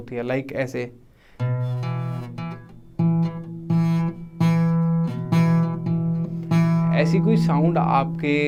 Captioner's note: buzz sound